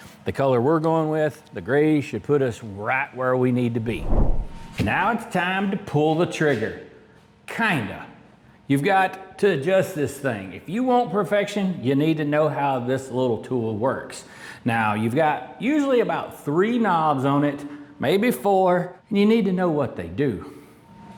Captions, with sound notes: The color we're going with, the gray should put us right where we need (Whooshing) it's time to pull the trigger. Kinda. You've got to adjust this thing. If you want perfection, you need to know how this little tool works. Now you've got usually about three knobs on it, maybe four, and you need to know what they do.